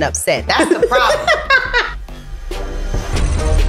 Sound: laughing

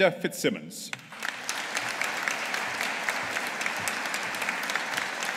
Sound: audience applauding

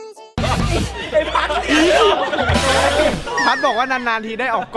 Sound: laughs

